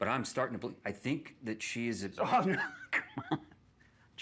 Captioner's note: laughs